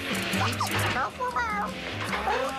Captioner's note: chatters